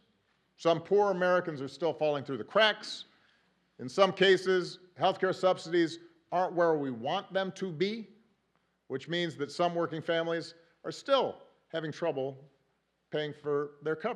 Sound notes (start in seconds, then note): none